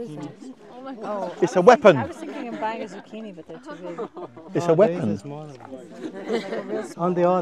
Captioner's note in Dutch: geroezemoes